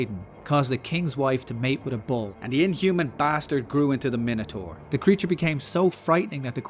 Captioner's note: none